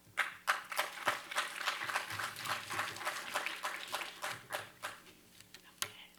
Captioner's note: audience applauding